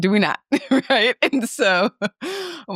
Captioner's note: laughing